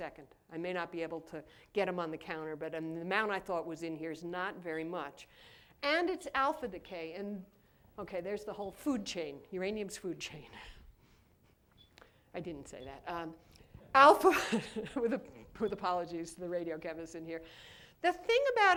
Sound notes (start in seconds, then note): 14.3 laughter